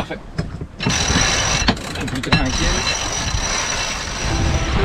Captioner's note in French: Sons du winch et de l'eau